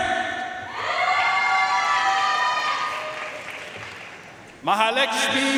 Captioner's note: audience cheering and applauding